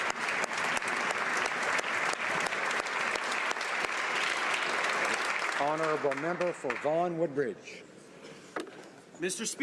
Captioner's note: applause